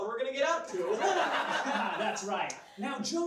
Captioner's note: laughs